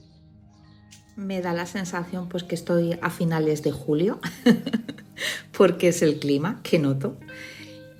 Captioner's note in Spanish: risas